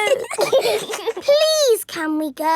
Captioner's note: giggling